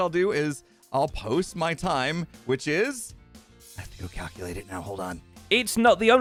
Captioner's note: whispers